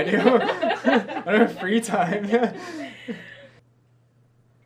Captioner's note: laughing